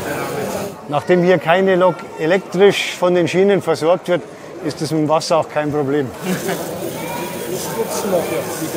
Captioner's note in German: Lokführer lacht!